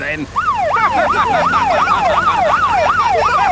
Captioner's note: siren wailing; laughing